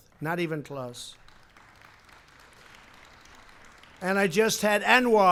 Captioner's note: applause